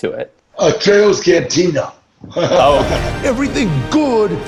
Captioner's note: laughs